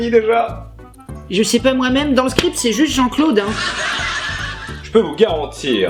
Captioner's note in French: Rires de sitcoms